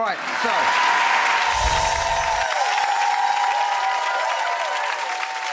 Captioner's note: audience applauding